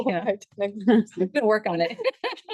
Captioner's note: laughs; board member speaks faintly; board members laugh; laughs